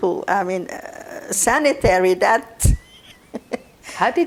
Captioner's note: laughing